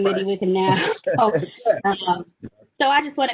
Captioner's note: laughing